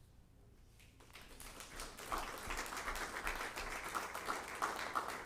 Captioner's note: all applauding